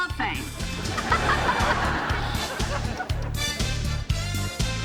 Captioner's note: audience laughing; upbeat music